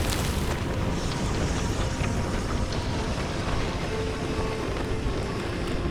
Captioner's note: wind whistling